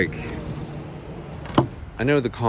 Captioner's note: equipment thuds